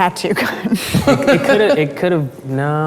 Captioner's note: laughing